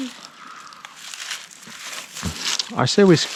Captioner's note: water splashing